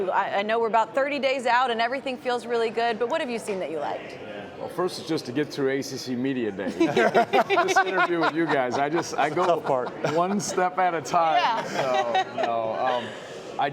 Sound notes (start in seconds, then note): 6.6 laughter